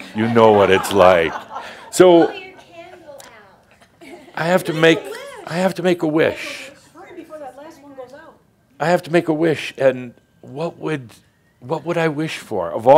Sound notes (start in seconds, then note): 3.6 more chuckles and someone says “Blow your candle out”; 4.8 someone shouts “Make a wish”